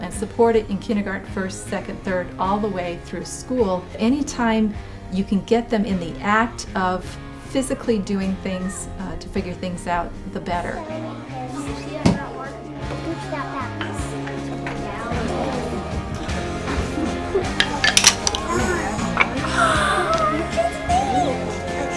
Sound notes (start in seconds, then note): 11.1 classroom noise; 17.4 wood clinking; 18.4 gasp; 21.7 laughter